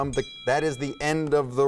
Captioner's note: bell dinging